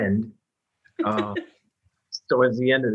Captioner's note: laughs